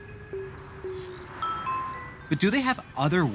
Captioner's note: doorbell chimes